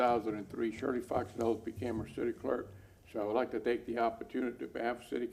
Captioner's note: off microphone